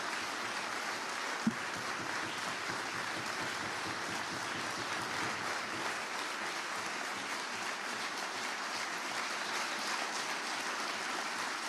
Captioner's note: applause